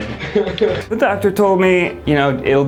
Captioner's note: laughing